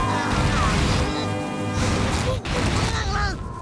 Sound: grunting

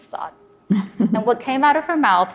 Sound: laughs

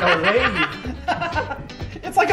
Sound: laughs

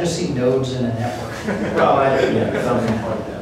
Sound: laughter

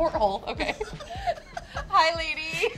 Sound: laugh

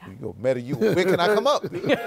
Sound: laughs

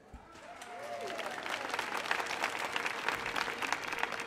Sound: audience applauding

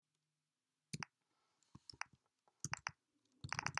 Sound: typing

